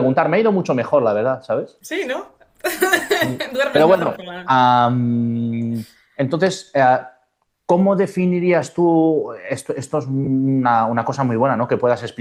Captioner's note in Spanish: risas